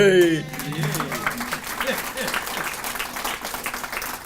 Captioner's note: audience applauding